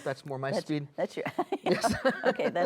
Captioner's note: chuckles